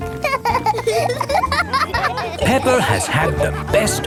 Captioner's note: laughing